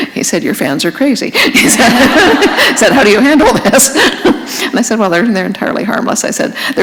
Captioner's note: laughter